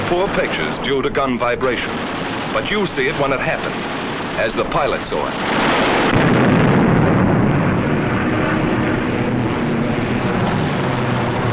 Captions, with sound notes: poor pictures due to gun vibration. But you see it when it happened, as the pilot saw it. (booming)